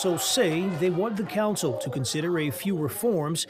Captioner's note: crowd noise